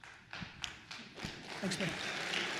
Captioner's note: attendees applauds